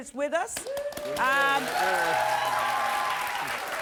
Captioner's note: audience applauds